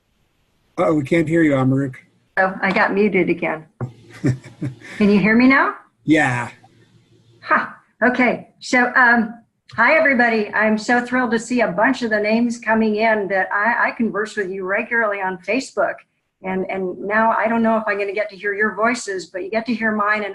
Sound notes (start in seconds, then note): 4.0 laughs